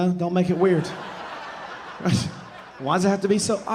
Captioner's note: audience laughing